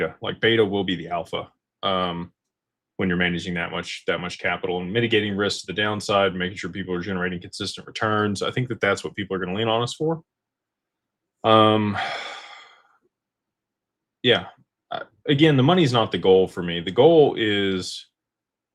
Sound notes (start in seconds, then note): 11.7 sighs and gasps